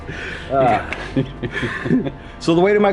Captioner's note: laughing